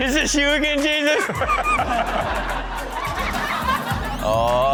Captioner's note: laughs